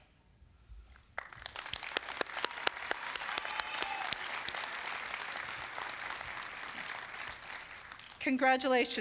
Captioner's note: applause